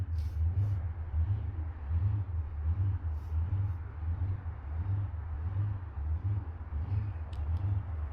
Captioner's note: wind